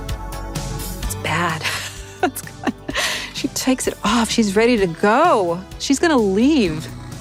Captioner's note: laughs